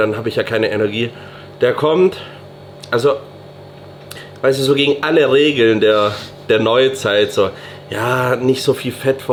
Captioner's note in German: schnauben